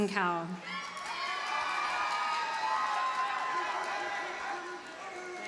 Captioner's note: audience cheers and applauds